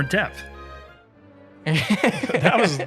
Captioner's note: laughter